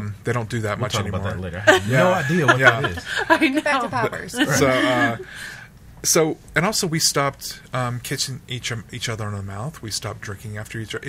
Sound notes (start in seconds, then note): 1.6 laughs